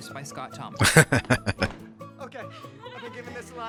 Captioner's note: laughing